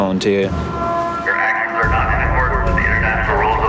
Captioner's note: man On Loud Speaker